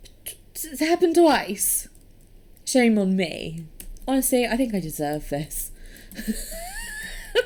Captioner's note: wheezes